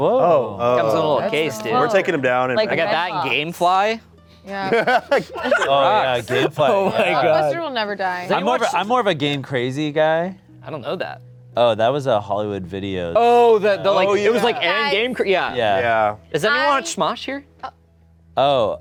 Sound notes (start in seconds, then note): 4.6 laughing